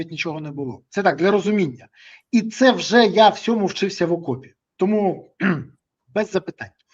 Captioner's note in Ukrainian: прочищення горла